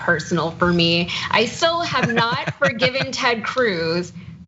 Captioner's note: laugh